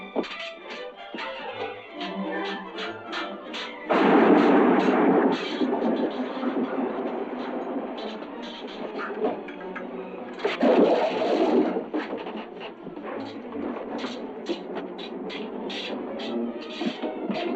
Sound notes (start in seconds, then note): 0.1 swords clashing; 3.9 thunder rumbling; 10.3 utensils clanging; 13.2 swords clashing